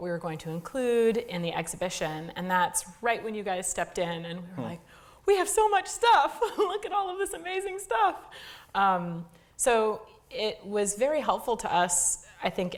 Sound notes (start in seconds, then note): 7.0 laugh